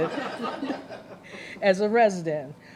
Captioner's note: laughter